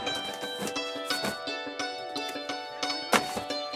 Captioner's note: gentle atmospheric music; newspapers thudding; gentle atmospheric music